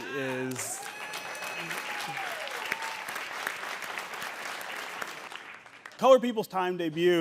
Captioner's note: audience cheering and applauding